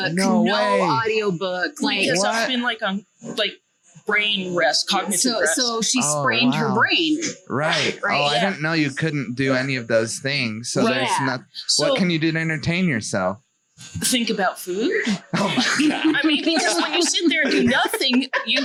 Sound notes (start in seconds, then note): 14.7 laughs